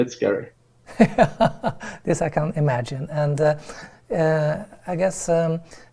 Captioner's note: laughs